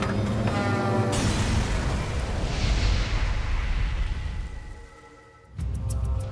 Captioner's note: plane thuds; explosion thuds